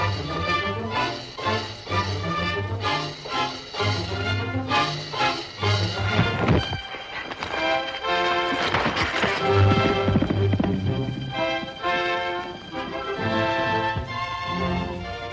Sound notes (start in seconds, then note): 6.0 bodies thud; 9.0 triumphant upbeat music